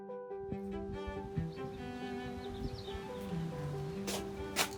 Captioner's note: birds chirping